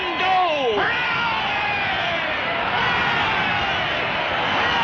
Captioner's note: crowd